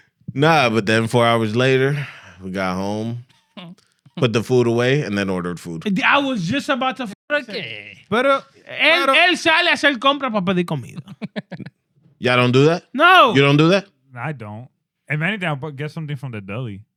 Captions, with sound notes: Nah, but then four hours later, we got home, put the food away and then ordered food. I was just about to up. (Speaking In Foreign Language) Y'all don't do that? No. You don't do that? I don't. And many times I'll get something from the deli.